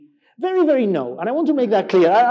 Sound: laughs

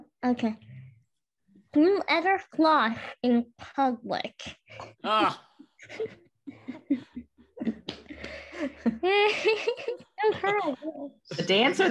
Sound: laughter

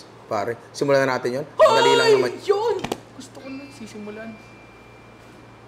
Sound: screams

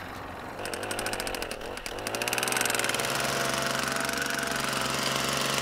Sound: driver hammers rod into ground

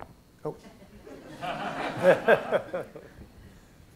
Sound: laughter

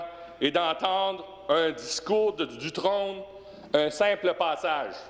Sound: speaking in french

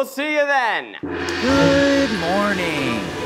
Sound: gong crashing

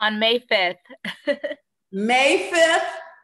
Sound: laughs

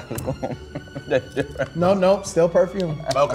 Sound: chuckles

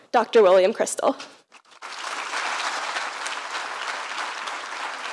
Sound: applause

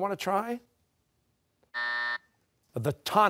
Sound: buzzer

